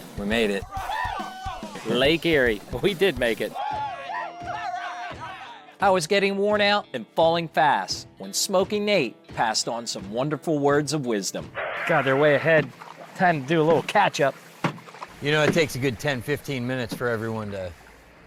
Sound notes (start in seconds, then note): 0.6 cheering; 3.5 cheering